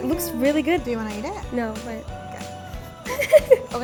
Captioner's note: laughs